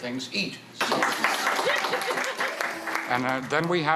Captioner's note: applause